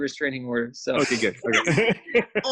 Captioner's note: laughing